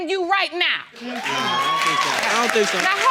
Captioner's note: audience cheering